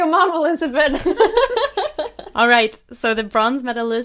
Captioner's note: hosts laugh